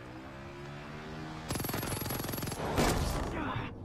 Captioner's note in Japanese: 射撃音